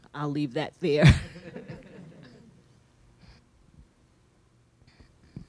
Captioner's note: audience laughing